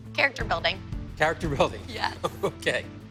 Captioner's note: chuckles